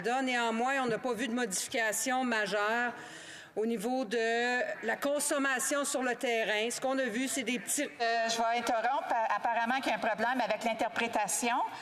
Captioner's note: speaking French